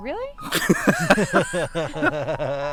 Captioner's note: hard laughter